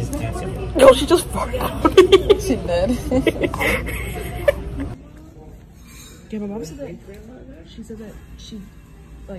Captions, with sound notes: Yo she just farted on me *Laughs* Ginger ale